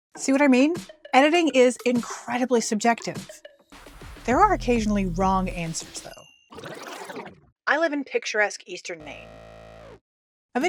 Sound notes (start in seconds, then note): 6.5 rewind sfx; 9.0 incorrect buzzer